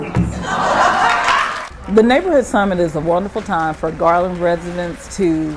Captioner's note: laughing and clapping